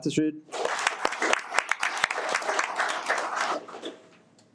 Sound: audience applauding

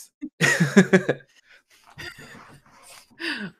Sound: laughter

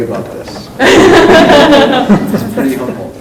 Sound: laughing

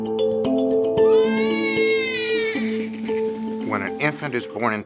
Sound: crying

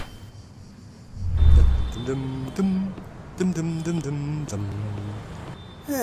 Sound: humming

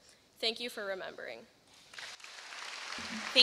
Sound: applause

